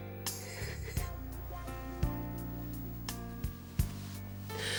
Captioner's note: Trudy sobs